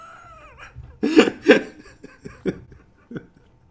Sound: laughing

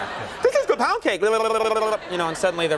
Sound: funny sounds

